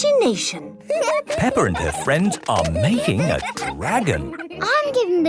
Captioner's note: giggling